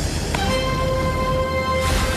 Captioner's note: crash